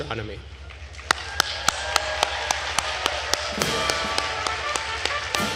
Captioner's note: attendees cheering and applauding; processional music